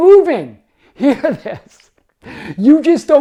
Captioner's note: laughs